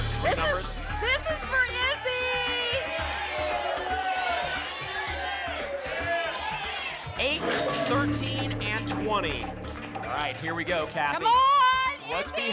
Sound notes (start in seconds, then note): 4.0 audience shouting numbers; 7.3 lock sound